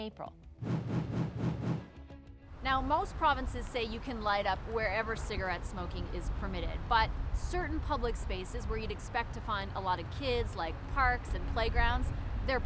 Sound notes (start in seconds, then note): 0.6 whoosh